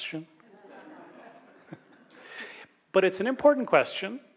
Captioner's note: laughs